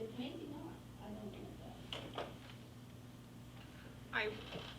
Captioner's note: faintly speaking